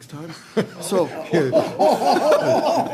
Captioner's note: laughter